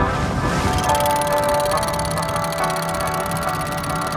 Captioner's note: cogs turn slowly